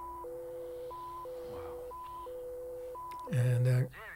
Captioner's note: device continues beeping